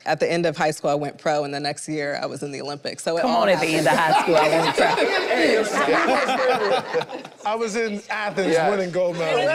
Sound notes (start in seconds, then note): 4.8 group laughing